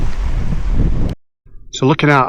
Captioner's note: wind